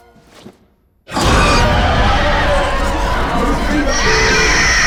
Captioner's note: demon screeching